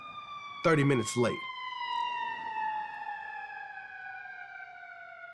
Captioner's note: sirens wailing